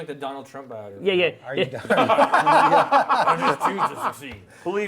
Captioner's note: laughter